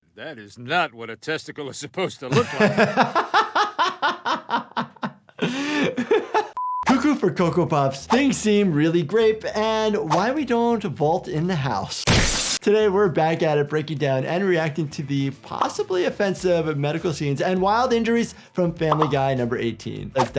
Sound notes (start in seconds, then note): 2.3 doctor laughs